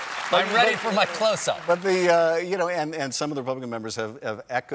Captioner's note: cheers and applause